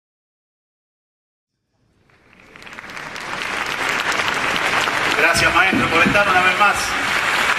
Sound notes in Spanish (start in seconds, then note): 1.8 aplausos